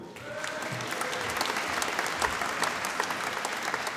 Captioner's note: applause